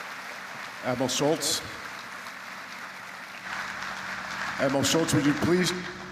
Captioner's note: applause